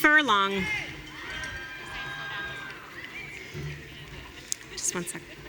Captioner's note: audience cheering